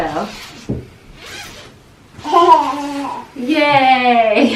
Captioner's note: sound of zipper; laughing